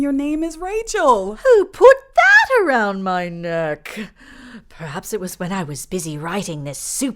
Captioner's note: in British accent